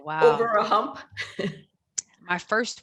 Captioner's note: chuckles